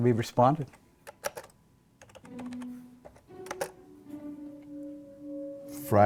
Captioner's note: tape recorder clicking